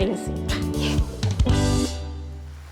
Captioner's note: laughs